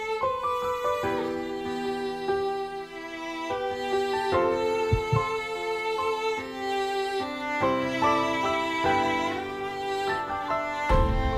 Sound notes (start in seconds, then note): none